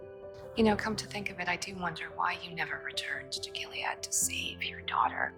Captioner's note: voiceover